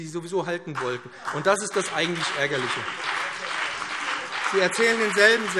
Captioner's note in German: Beifall BÜNDNIS 90/DIE GRÜNEN und CDU